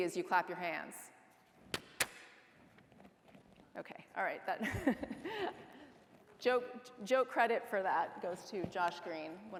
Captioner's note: hand clap